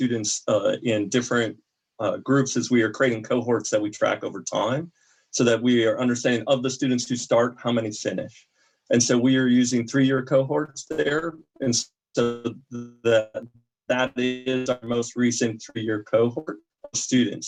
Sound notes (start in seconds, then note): 9.0 audio cutting out